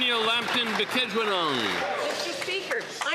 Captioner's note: applause